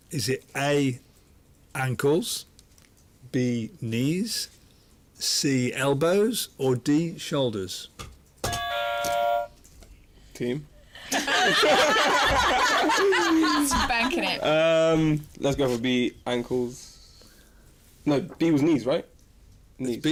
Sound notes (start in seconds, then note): 8.4 buzzer; 11.0 laughter